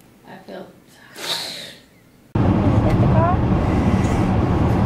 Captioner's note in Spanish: suspira